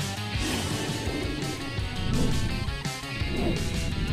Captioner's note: air whooshing